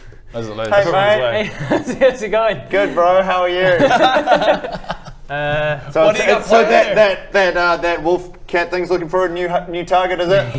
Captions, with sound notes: as it leaves Hey mate! Hey...how's it going? Good bro, how are you? *awkward laugh* - What've you got planned? - So it's...so that that er that wolf cat thing's looking for a new target is it?